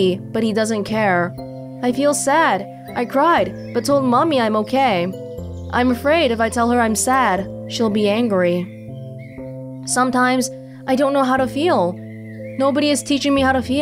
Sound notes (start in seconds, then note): none